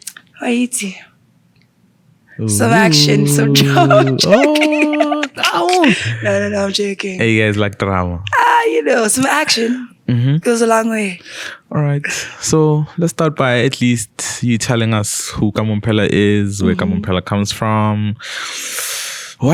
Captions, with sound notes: You know exactly [ murmurs and laughs] Oh, oh. No no , I’m joking You guys like drama You know, some action goes a long way. Alright. So let's start by at least you telling us Who kamo Mphela is? Where Kamo Mphela is from?